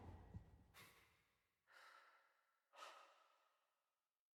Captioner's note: either Jimmy or Curly breathing heavily